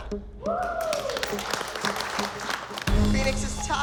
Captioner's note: clapping